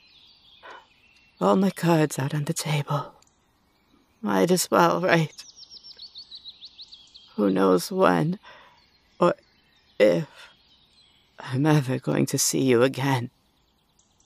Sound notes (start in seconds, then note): none